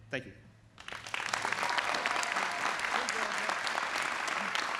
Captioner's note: audience applauding